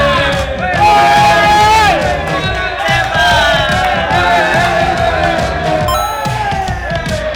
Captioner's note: locals cheering